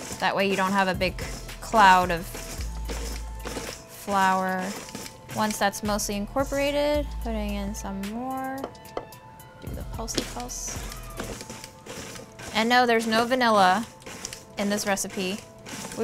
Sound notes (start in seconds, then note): 9.7 mixer pulsing